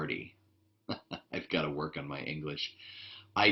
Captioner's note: laughs